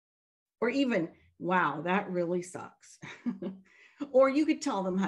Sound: chuckles

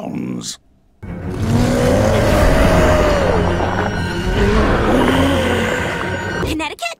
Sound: creepy growls/moans

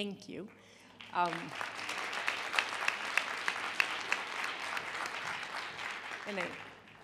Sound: applause

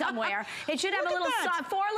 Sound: laughter

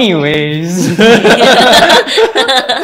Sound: laughter

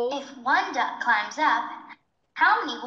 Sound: computer voiceover

